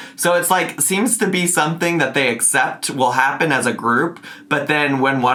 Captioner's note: none